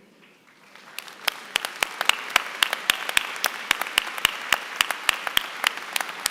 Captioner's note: applause